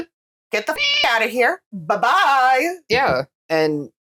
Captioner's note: meow